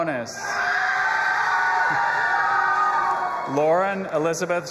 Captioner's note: audience applauding and cheering